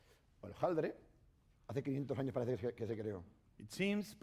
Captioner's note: speaking spanish